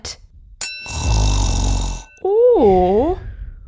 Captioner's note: ding!; snoring!